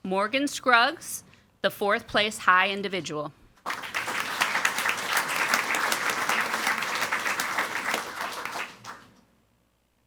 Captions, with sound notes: Morgan Scruggs, the fourth place high individual. (audience applauding)